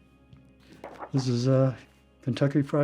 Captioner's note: paper shuffling